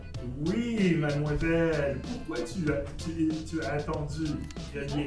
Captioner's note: speaking French